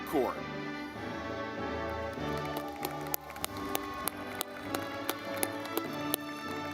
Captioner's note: audience clapping